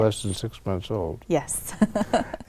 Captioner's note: laughs